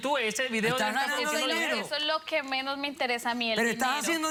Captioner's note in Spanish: Hablan al unísono